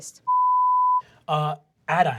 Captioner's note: beeping